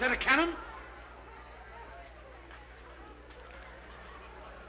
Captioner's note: people chattering